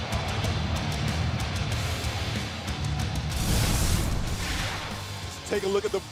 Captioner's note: cheers and applause